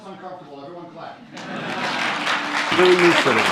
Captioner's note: applause